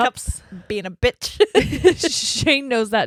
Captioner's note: giggling loudly